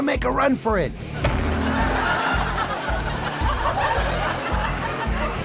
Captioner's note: audience laughs